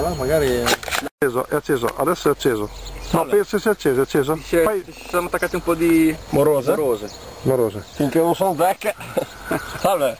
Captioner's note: laughter